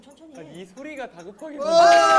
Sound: ticking

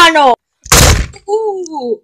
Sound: bang!

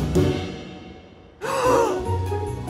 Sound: anime gasp

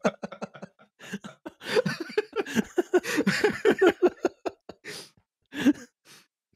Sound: laughing quite a bit; everyone lost to The Giggles; they pull themselves together in brief silence

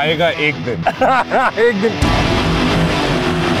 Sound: laughing

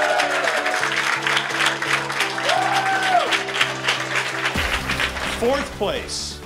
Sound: applause

